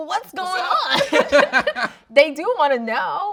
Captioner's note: laughing